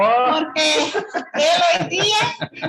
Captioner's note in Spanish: risas